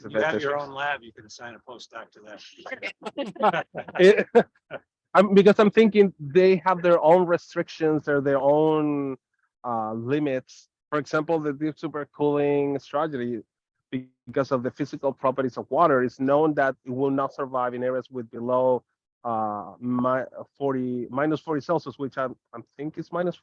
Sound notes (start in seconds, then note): 2.4 people laughing